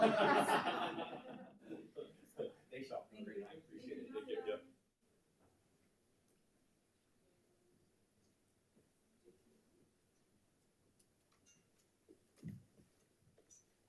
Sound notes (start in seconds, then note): 0.0 crowd laughing; 2.0 crowd chattering